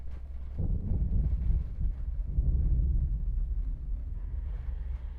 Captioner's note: thunder rumbling